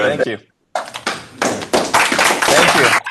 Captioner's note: applause